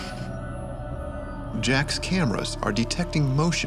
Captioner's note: voiceover